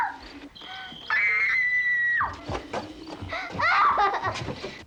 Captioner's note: Miranda screaming and crying